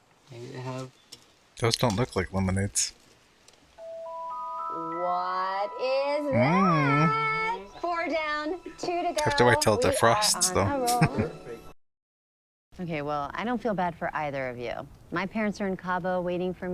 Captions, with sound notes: Those don't look like lemonades. Mmm. Have to wait until it defrosts though. [Chuckling]